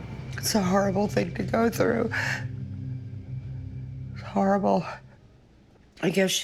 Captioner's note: sobs